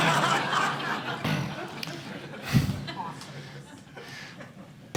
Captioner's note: laughter